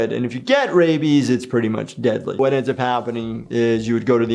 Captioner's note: none